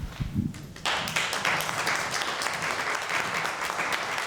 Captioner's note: applause